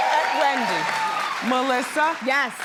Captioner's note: audience cheers